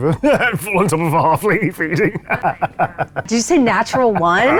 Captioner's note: laughs